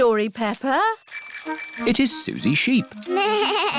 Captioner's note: bell ringing; snorts; bleats